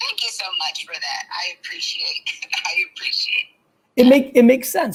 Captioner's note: laughs